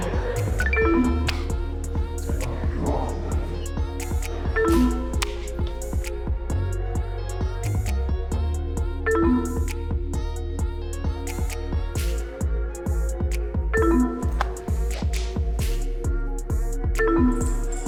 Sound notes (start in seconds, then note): 0.1 electronics beep; 0.9 upbeat music; 4.5 electronics beep; 4.9 upbeat music; 9.4 electronics beep; 9.4 upbeat music; 13.8 electronics beep; 14.1 upbeat music; 17.0 electronics beep; 17.2 upbeat music